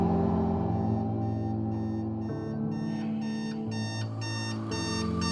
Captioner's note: alarm clock ringing